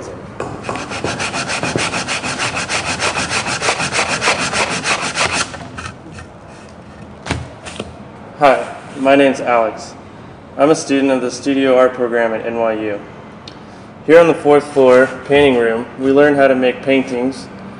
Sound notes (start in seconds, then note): 0.6 sound of sandpaper